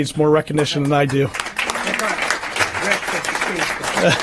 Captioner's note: applause